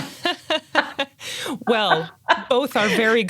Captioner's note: laughs